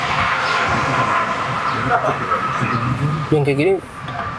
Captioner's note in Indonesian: berteriak